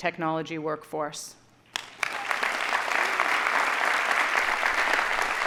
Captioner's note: audience applauding